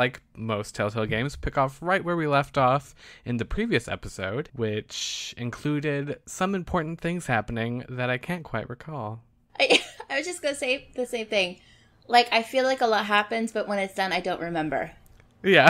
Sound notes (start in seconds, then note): 9.6 laughs